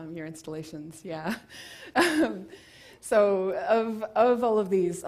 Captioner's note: laugh